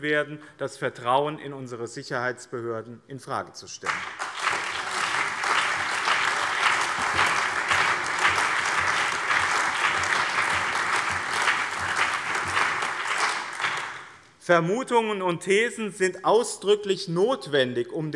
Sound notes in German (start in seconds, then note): 3.8 Allgemeiner Beifall